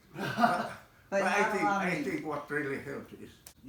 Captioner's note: laughter